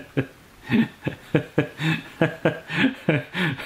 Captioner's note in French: rires